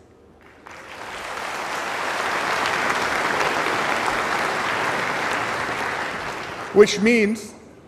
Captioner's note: applause